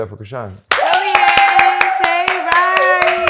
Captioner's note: cheering